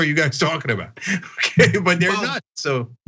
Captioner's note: laugh